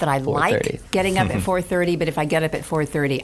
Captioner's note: chuckling